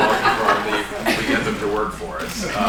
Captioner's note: laughter